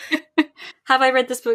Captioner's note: laughs